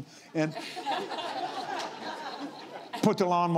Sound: laughs

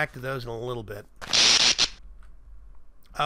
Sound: electricity crackles loudly

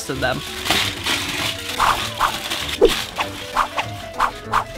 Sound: tin foil crinkling

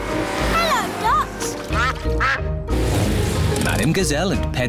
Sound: quacking

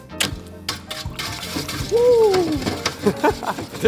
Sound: whisk whirring; laughs

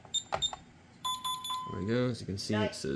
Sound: keypad beeps; bong bong bong!

